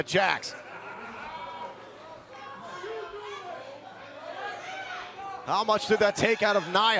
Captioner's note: crowd cheering